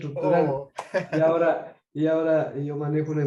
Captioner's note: laugh